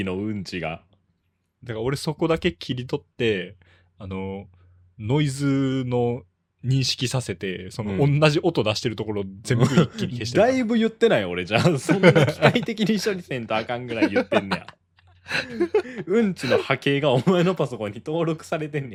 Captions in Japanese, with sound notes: のが だから俺そこだけ切り取ってあのノイズの認識させてその同じ音出してるところ全部一気に消してだいぶ言ってないよ俺じゃあそんな機械的に処理せんとあかんぐらい言ってんねや。 [笑い] うんちの派形がお前のパソコンに登録されてんねや。俺の [笑い]